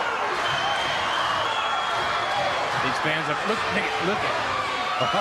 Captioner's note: crowd cheering